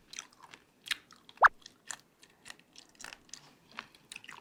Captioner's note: chew!